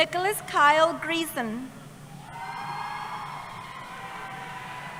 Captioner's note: cheering